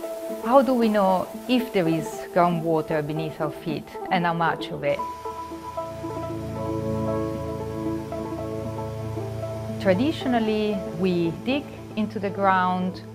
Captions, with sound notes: How do we know if there is groundwater beneath our feet? And how much of it? [MUSIC, WATER SPLASHING] Traditionally, we dig into the ground,